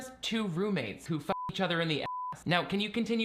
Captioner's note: beeping